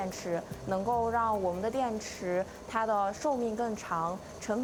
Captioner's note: speaking chinese